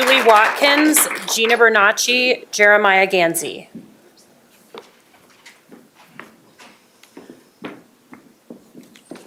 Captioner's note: applause